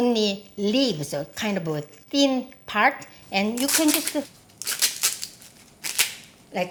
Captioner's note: leaves ripping